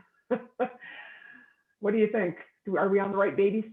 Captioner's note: laughs